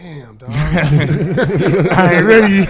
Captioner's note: laughing